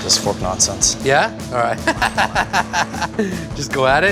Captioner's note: laughs